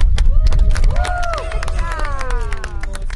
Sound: group claps

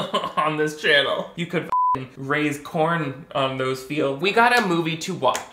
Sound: beep

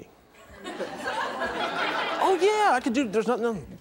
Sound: audience laughing

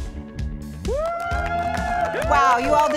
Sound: upbeat music; all cheer

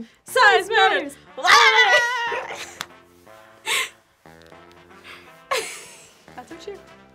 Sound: both laugh

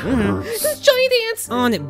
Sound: hums in approval

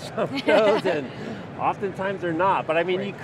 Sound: laughs

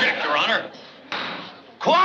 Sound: bang

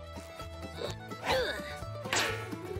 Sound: grunting

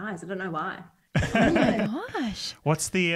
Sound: laughs

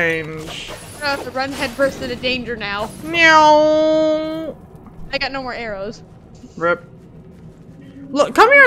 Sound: airplane noises

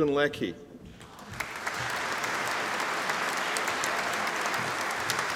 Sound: audience applauding

